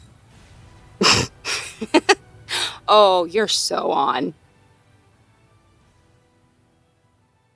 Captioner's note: laughs